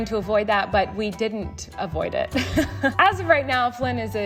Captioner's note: laughs